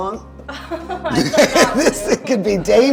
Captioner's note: laughing